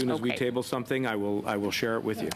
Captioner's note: mixed voices